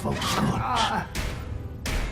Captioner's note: groaning